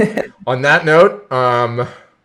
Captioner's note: laughs